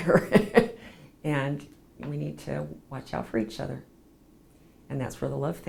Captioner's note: laughs